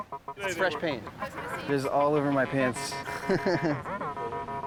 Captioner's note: laughing